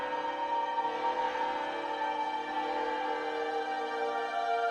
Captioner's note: bells ringing